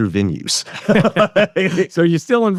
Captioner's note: both laughing